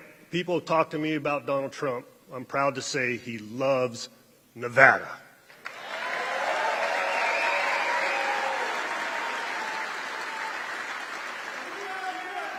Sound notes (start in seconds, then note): 3.4 applause